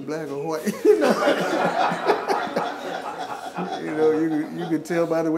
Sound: laughing

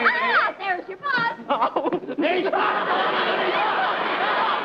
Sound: sobs

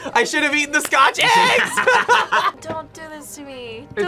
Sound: both laugh

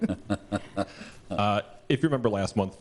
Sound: laughter

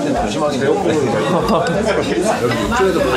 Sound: laughing

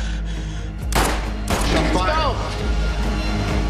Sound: gunshots

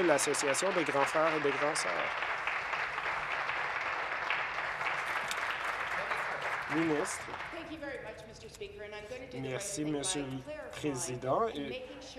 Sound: applause

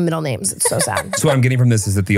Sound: laughing

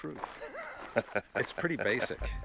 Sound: laughing

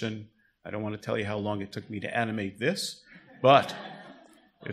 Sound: audience laughter

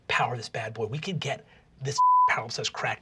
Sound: beeping

